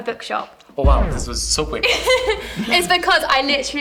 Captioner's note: laughs